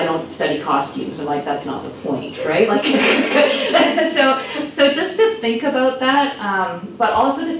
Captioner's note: laughs